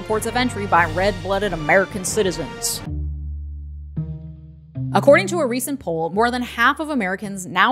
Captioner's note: southern accent??